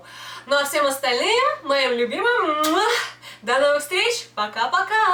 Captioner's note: kiss